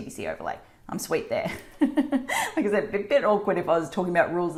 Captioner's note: laughing